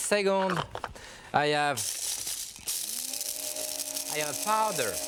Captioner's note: blender whirring